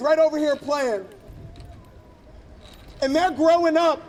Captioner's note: chain rattling